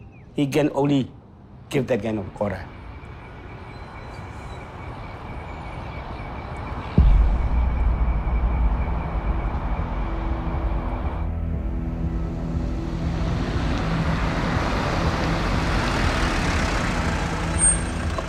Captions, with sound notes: Only he can give that kind of order. (sounds of traffic) (sound of a car)